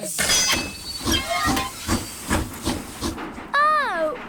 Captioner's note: train chugs